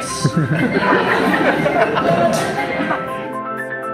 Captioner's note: audience laughs